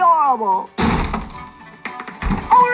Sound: door slams open

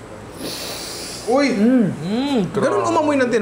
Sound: sniffles

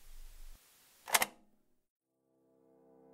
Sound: click

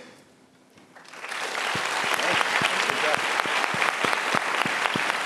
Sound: applause

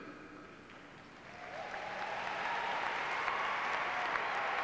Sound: clapping and cheering

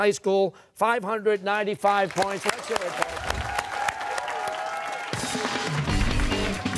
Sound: cheers and applause

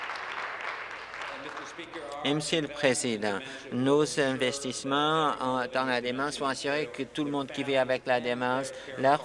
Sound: applause

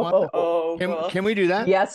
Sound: laugh

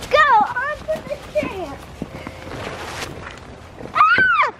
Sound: children muttering; child yells

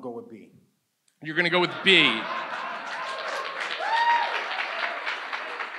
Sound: audience cheers

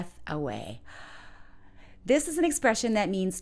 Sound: inhales

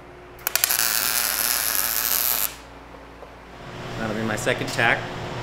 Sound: welder crackling

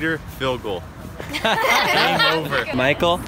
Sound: laughs

